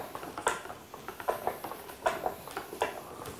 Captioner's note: knocking noises